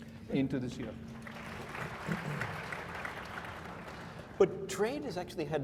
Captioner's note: applause